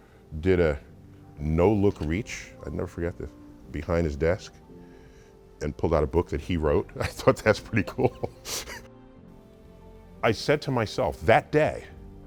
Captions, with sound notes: did a no look reach. I'd never forget this, behind his desk, and pulled out a book that he wrote. I thought that's pretty cool. (laughs) I said to myself that day,